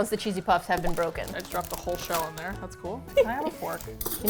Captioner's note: laughs